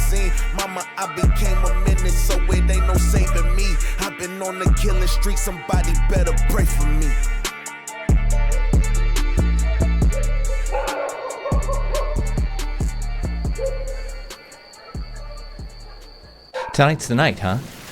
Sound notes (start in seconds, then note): 8.3 hip hop music; 11.2 animals hooting